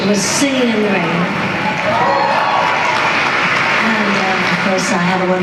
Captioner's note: applause